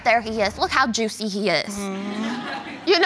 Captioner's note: audience laughing